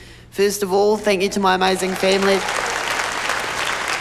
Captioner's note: cheering, applause